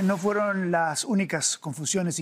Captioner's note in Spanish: HABLA EN INGLéS